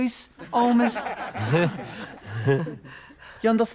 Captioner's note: chuckling